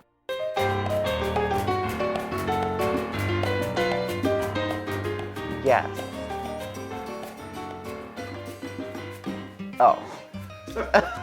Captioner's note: laughs